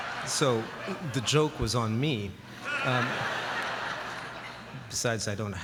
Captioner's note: laughter